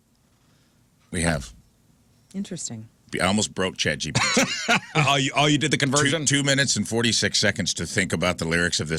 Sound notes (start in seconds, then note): 4.2 laughing